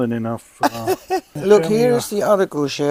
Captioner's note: laughing